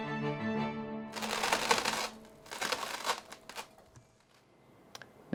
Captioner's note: scrapping across table